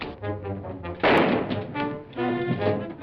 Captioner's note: gunshot